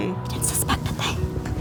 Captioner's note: whispers quietly